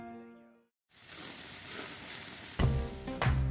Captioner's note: grill Sizzles